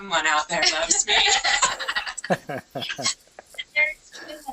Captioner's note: laughter